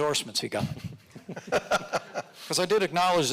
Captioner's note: audience laughing